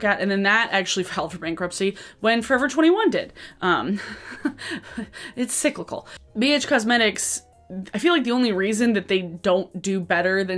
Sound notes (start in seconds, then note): 4.0 chuckles